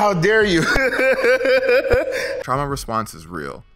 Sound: laughs

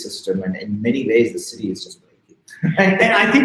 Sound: chuckling

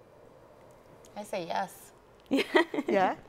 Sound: chuckles

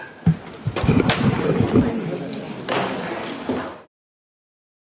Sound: chair rustling

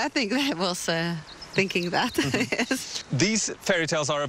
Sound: chuckling

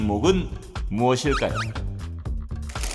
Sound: confident

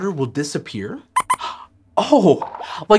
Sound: squeaks squeaks

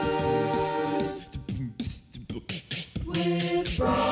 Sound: beatboxing

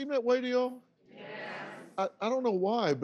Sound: audience agreeing

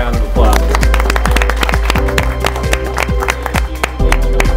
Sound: students clap

